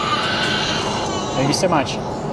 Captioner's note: baby crying